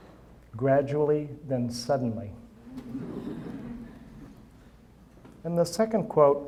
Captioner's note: audience chuckling